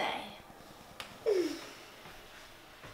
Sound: yawn

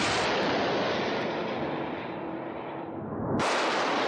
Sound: missile screeches

